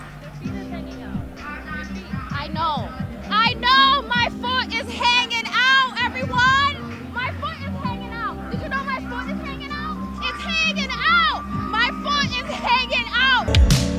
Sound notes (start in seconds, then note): 3.8 shouting; 13.7 classical music